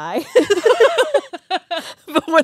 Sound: both laughing

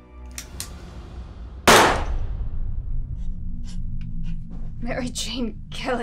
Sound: gunshot

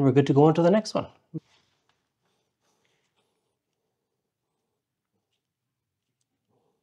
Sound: silence

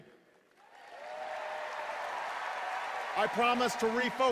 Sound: cheers and applause

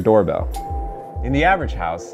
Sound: bell ringing

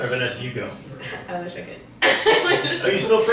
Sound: laughing

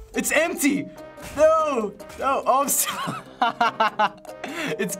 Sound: laughs

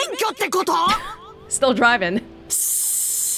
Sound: scoffs

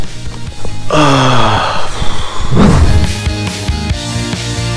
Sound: sighing loudly

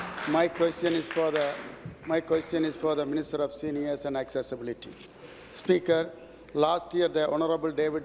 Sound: applause

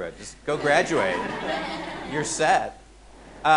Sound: audience laughing

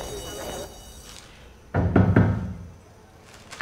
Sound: knocking

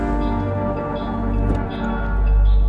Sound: doors opening

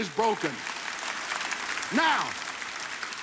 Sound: audience applauds

